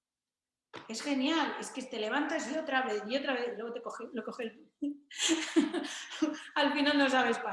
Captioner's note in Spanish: risas